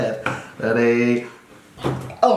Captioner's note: laughs